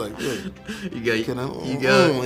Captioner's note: laughing